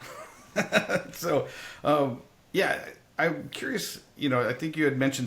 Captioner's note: laugh